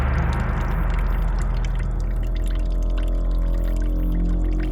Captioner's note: dramatic musical score; water trickles